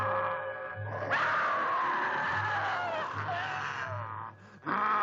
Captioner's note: Priscilla screams